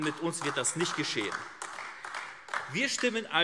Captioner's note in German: Beifall AfD